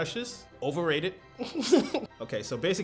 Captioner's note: laughter